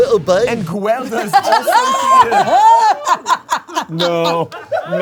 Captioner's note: all laughing